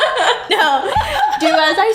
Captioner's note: laughs